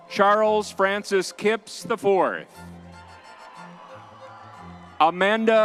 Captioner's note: crowd cheering